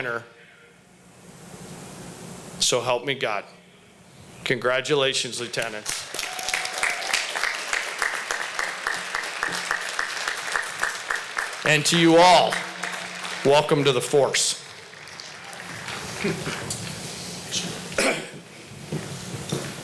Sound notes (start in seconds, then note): 5.6 applause